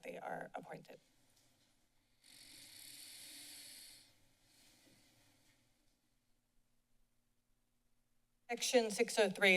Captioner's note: silence